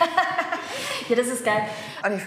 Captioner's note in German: Lachen